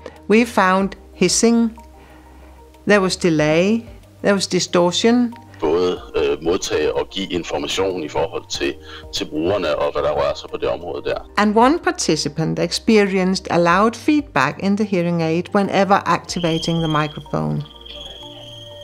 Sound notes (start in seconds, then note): 6.7 distorted in Danish